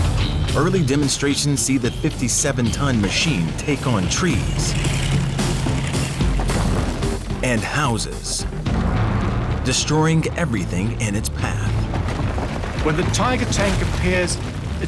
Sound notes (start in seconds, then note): 5.0 tank crashing